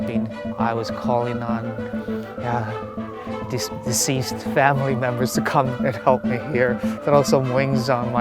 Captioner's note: laughs